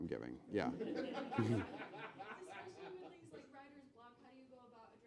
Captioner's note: laughing